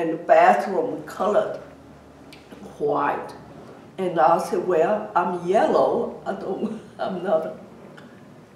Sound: laughs

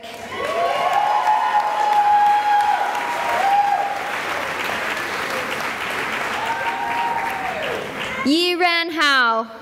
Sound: cheering and applause

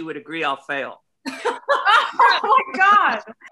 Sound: laughs

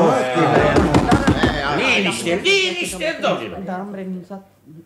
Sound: knocks on the table

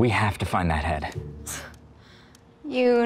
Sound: scoffs

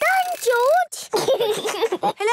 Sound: giggles

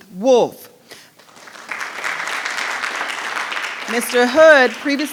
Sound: audience applauding

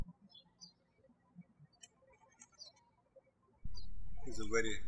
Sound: birds chirping

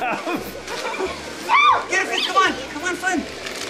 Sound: children chattering

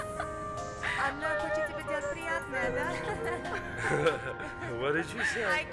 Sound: speaking in foreign language

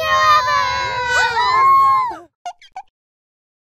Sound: all cheer

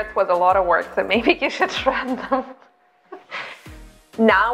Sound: laughs

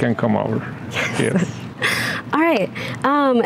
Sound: laughs

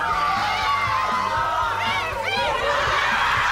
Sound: team cheers

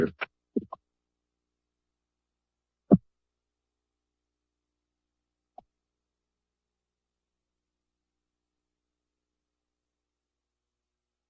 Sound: silence

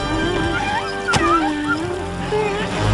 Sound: coyotes whine and whimper

